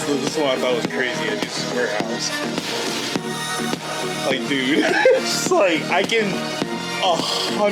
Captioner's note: laughs